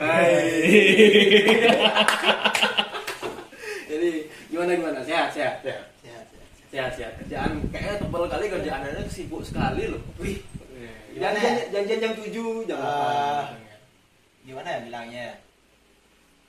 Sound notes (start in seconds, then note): 0.2 sfx: laugh wkwkwk